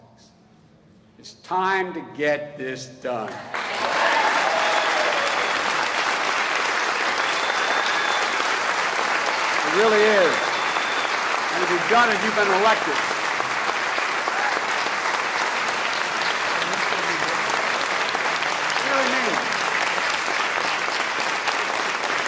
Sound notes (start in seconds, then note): 9.3 applause